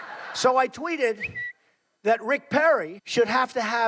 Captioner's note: audience laughing; bird tweeting